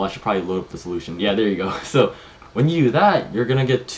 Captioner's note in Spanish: se ríe